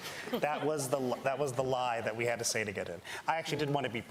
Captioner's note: laughter